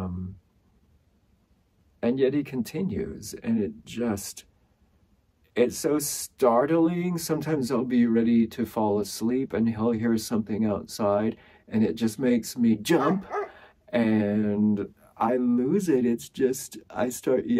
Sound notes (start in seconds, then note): 12.9 bark loudly